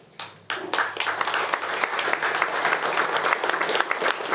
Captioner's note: attendees applauding